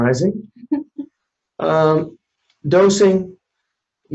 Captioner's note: quiet laugh